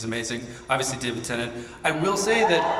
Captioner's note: audience cheers